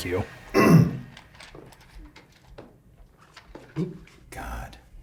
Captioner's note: clear his throat